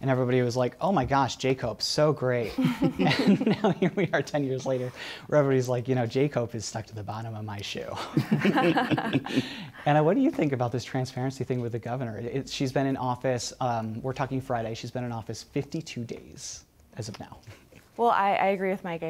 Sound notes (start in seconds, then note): 2.4 chuckles; 2.5 laughs; 8.0 laughs